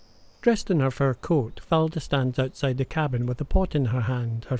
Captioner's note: birds chirp